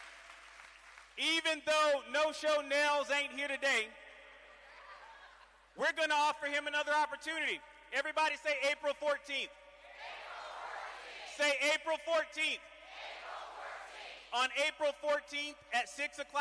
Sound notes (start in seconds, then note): 0.2 cheering